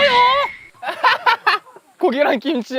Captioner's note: laughs